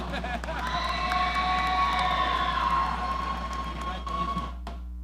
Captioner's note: audience cheering